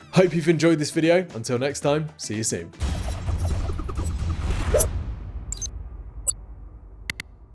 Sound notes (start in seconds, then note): 2.8 dramatic percussive music; 3.3 metallic whirring; 7.1 electronic clicking